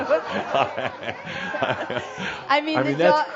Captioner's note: laughter